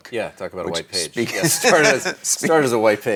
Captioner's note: laughs